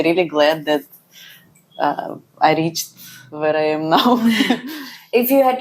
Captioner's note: laughs